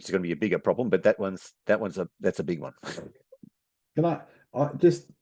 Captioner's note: chuckles